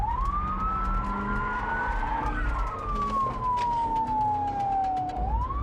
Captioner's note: police sirens wailing